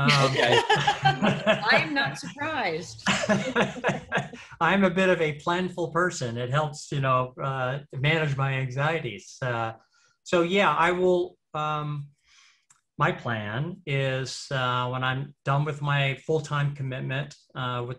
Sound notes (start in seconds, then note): 0.2 laughs